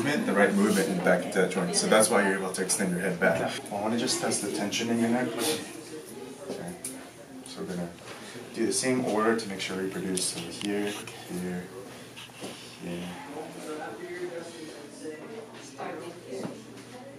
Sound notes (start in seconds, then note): 13.0 people chattering